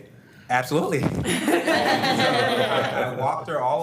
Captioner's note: board members laughing